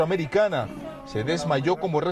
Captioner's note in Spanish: llora